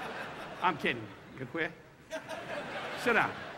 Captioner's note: audience laughing